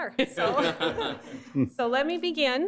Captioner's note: laughter